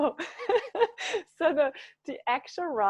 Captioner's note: laughing